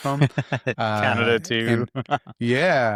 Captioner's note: laughing